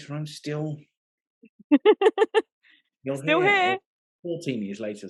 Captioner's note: laughing